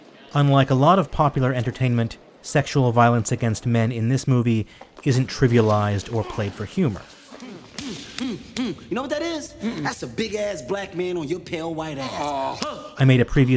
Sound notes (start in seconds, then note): 7.6 rhythmic hand beating